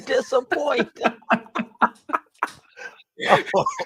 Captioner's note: laughter; chuckling